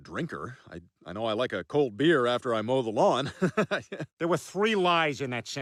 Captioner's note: laughs